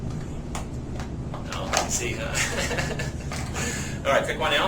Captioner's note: laughs